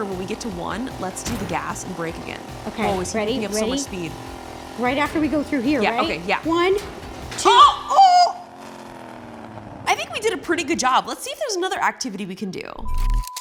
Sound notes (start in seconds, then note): 7.4 yells; 12.8 beep